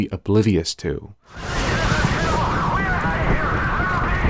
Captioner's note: on Radio, Frantic